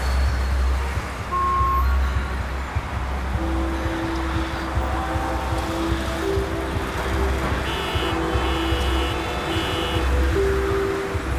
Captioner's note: Ailia breathing heavily, cars honking